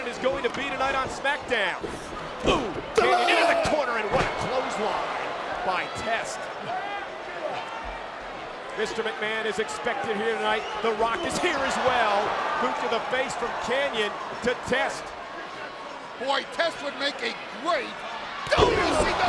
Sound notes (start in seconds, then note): 3.0 wrestler grunting